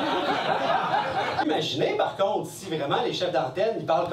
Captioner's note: laughs